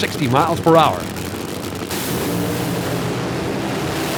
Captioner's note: engines roar